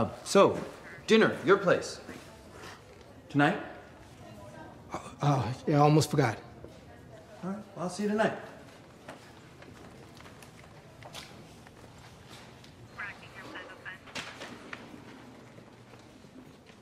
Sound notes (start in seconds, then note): 12.8 dispatch chattering